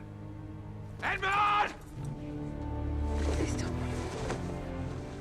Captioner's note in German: Mercedes flüstert